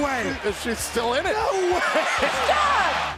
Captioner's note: laughs